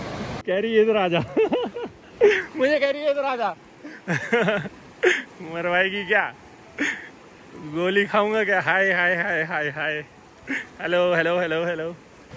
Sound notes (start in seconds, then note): 3.9 laughing